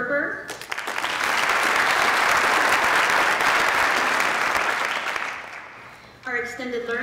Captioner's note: applause